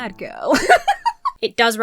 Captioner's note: laughs